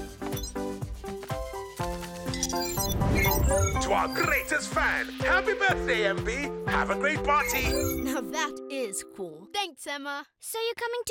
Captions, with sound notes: (beeping) - To our greatest fan, happy birthday, MB! Have a great party! - Now, that is cool. Thanks, Sema. - So you're coming to the party, right?